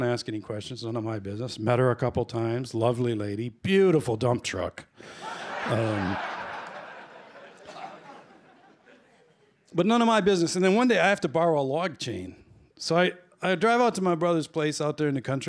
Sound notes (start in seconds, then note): 5.1 laughter